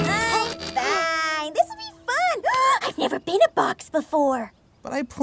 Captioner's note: gasps